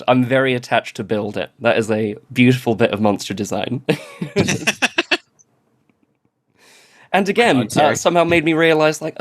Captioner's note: laughs